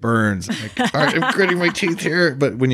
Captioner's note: laughs